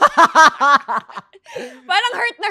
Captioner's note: laughs